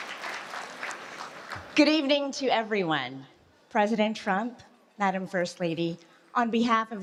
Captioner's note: applause